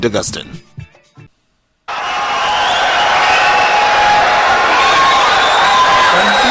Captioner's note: wild applause and cheering for 22 seconds